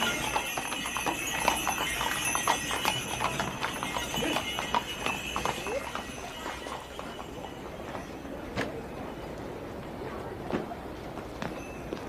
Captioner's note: bells jingling